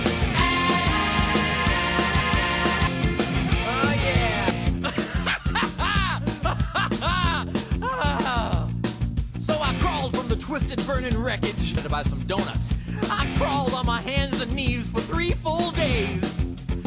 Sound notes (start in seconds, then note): 4.6 laughing maniacally; 7.4 sighs